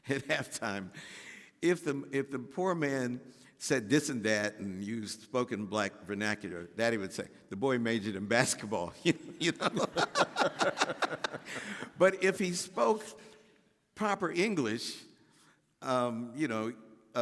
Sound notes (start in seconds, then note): 9.1 laughing